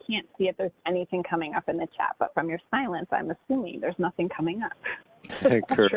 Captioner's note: laughter